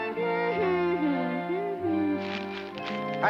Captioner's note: Oblio humming